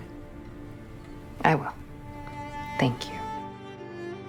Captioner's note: voiceover